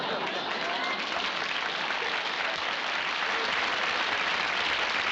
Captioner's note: laughter; applause